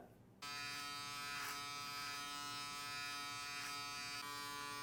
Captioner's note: shaver buzzes